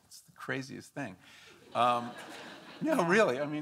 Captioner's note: audience laughing